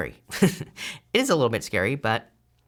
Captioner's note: chuckles